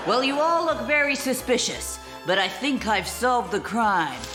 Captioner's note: none